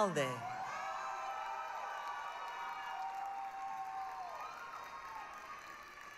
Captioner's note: applause, cheering